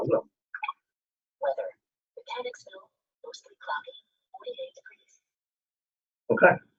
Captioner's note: indecipherable system noises